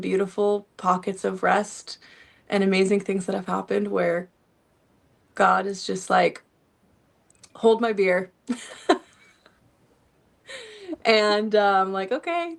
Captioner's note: laughter